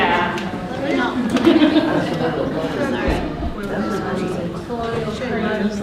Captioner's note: participants talking at once